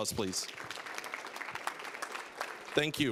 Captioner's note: applause